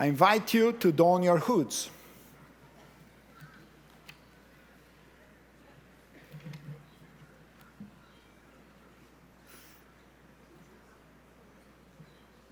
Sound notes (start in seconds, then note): none